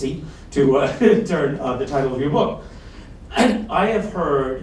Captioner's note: laughs